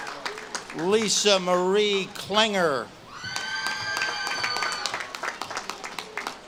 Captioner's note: audience claps and cheers